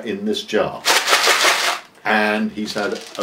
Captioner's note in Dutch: jelly beans rammelen in pot